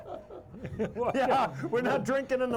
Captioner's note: all chuckling; laughing